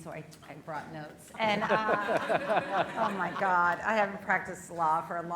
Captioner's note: laughter